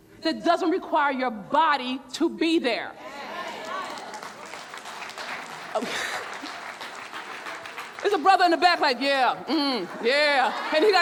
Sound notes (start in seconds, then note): 3.4 audience cheering and clapping; 5.7 laughs